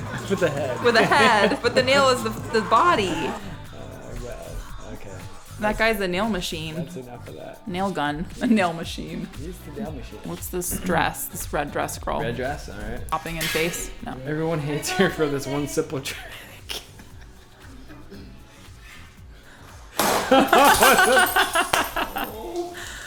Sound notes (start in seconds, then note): 14.6 laughs; 20.2 laughs